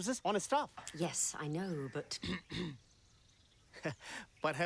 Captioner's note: coughing